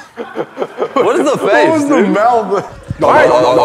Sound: makes garbled noises

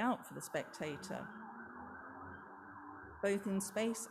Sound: police siren blaring

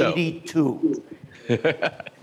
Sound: laughter

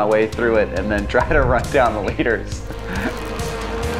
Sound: laughing

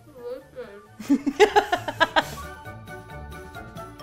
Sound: laughing; upbeat music

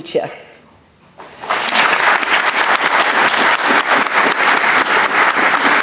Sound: audience applauding

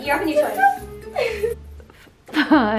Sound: laughs

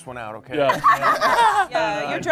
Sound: group laughing

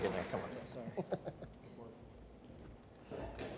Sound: laughs

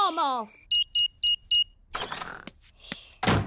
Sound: beeping

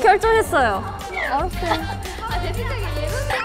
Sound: yelps immediately

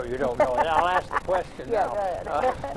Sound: laughs

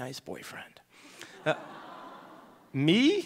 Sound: audience laughing

